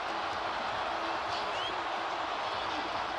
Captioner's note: crowd cheering